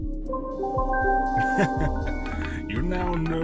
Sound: chuckles

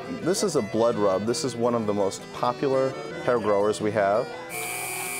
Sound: machine humming

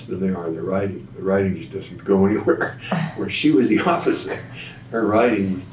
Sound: laughs

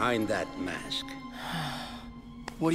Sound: sighing

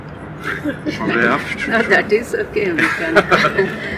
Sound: laughing

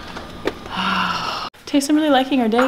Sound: sighing

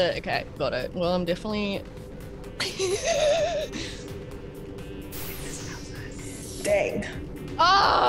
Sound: laugh

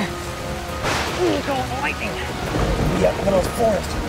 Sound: thunder cracks

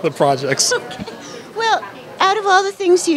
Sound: laughter

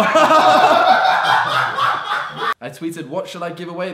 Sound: audience laughing

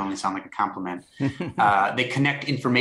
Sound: laughter

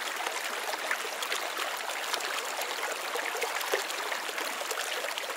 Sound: the sound of running water over rocks

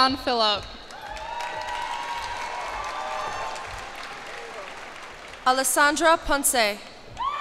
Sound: cheers and applause

